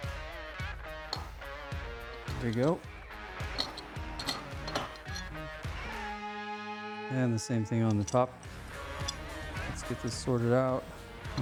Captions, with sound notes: There we go. (Hammering) And the same thing on the top. Let's get this sorted out.